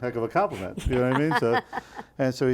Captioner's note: laughing